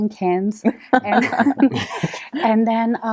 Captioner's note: laughter